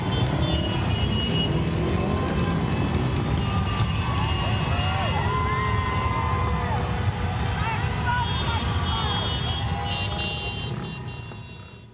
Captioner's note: sounds of motorcycles; people cheering